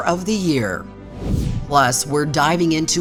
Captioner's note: transition whooshes